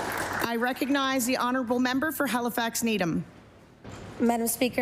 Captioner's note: applause